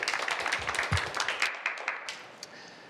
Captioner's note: applause